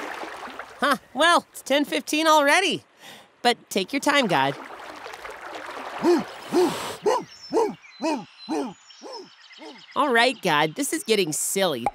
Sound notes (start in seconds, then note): 6.1 dog barking